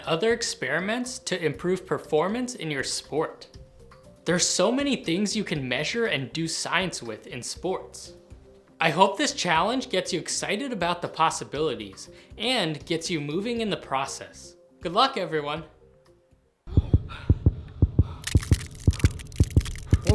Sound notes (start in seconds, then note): 16.7 heavy breathing; 18.6 heart beating fast